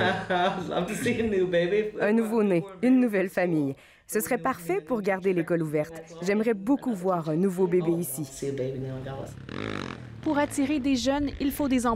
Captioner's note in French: rire